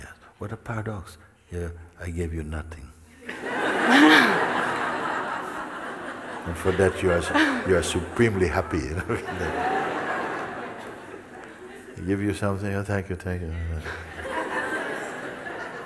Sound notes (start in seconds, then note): 4.3 smijeh; 9.7 smijeh